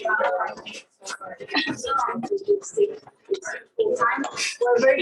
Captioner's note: background chatter